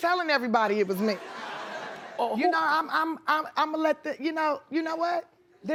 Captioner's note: audience laughs